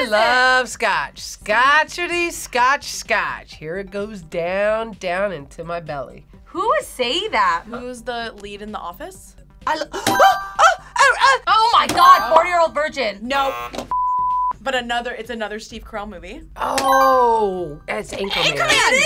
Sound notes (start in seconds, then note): 9.7 gasps; 10.1 buzzer rings; 13.3 buzzer; 17.0 buzzer rings